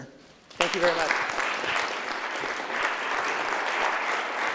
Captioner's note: clapping